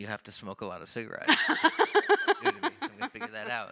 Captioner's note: laughs